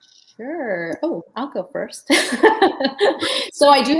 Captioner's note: laughs